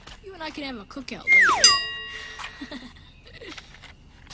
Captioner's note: comedy whistles